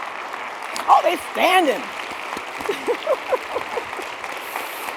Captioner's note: laughing